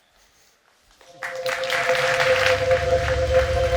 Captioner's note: audience clapping; calm music